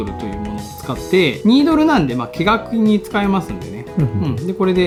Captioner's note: laughs